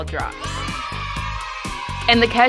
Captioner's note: crowd cheering